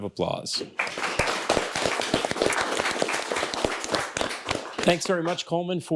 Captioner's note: audience and teams clapping